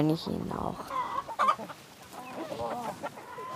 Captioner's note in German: Gackern